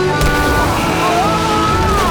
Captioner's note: screaming